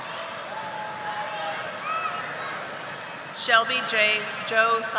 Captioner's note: audience applauding